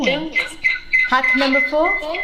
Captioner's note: words echoing from phone